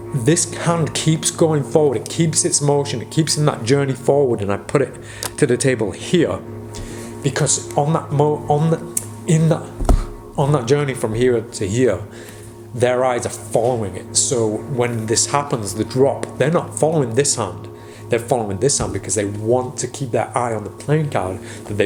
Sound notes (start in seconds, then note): 9.4 sighs; 9.8 wooden thump